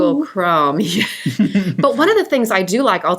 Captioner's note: both laugh